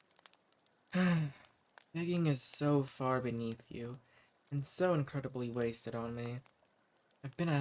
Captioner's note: sighs